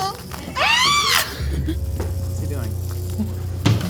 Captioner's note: crew member screaming